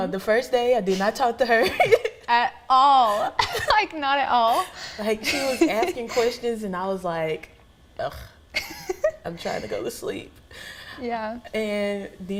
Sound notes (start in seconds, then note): 3.1 laughing